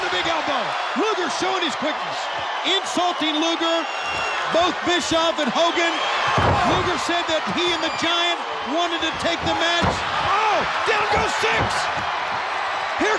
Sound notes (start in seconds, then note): 0.6 audience cheering; 6.2 body thudding; 11.7 audience cheering